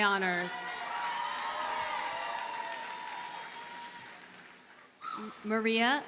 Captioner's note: audience cheers and applauds